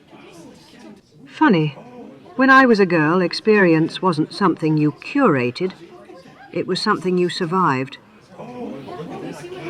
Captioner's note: murmurs of agreement